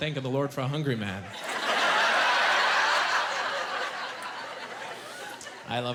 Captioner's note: laughing